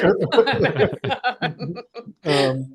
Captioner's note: laughter